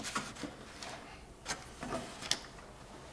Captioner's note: soft rustling